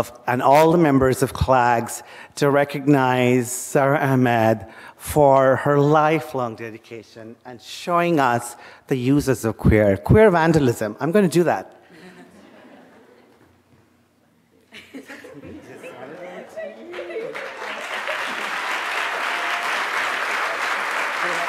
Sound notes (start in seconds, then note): 11.9 audience laughing; 16.8 audience applauding